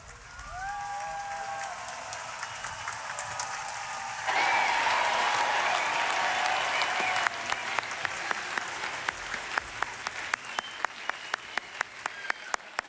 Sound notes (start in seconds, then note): 0.0 applause